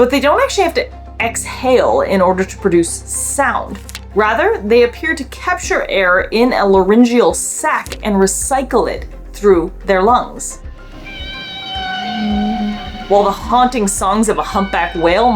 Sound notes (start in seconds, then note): 10.6 whale vocalizations